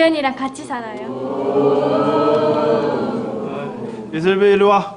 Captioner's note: oooooohhhhh